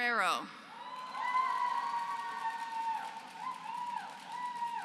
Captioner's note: applause